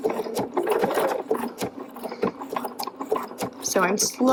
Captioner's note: machine whirs